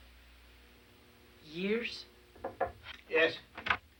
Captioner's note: door knocking